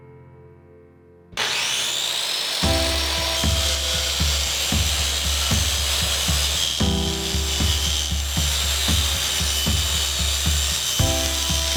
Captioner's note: sounds of power saw, music shift